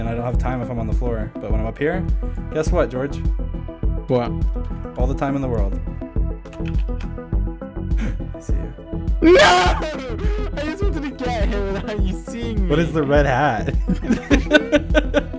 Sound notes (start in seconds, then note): 13.6 laughing